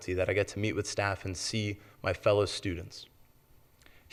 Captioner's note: none